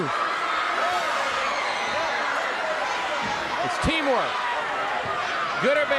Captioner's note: crowd cheering